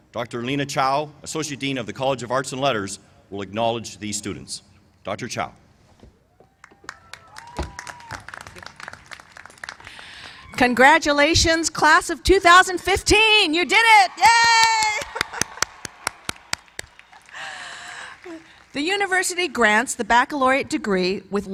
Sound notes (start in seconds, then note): 6.6 applause; 13.6 cheers and applause